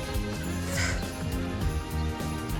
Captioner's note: sighs